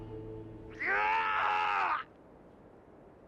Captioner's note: screaming